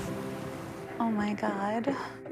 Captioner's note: sound of ocean